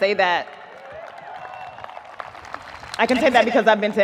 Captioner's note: audience applauds, cheers